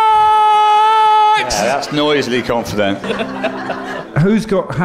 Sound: chuckling

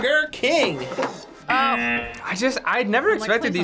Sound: buzzer rings

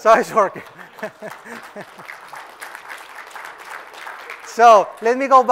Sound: applause; laugh

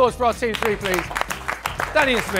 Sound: applause

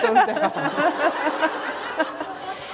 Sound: laughter

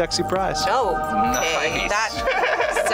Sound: laughs

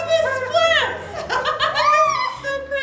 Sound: woman laughing

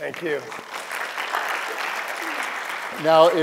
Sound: applause

